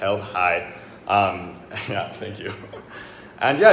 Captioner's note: laughing